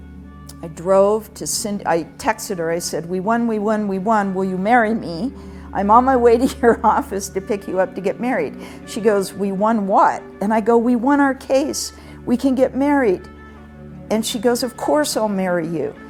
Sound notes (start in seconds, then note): none